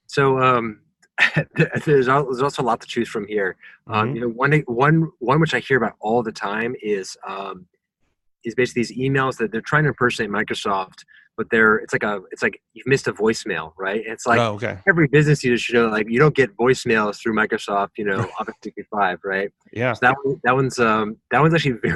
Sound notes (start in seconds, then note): 17.9 murmurs